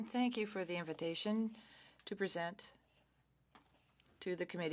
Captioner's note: speaking French